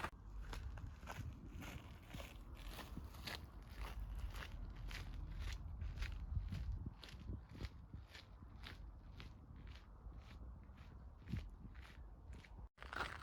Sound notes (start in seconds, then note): 1.5 footsteps